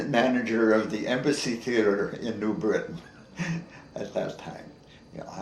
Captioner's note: chuckles